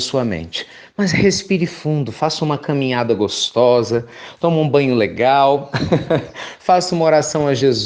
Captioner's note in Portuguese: risos